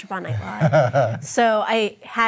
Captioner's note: chuckling